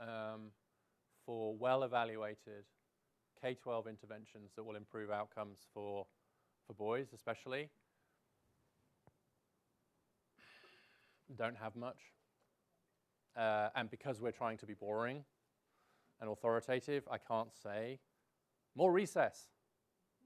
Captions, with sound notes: um, for well-evaluated K-12 interventions that will improve outcomes for, for boys especially. (sighs) Don't have much. Uh, and because we're trying to be boring and authoritative, I can't say, "More recess,"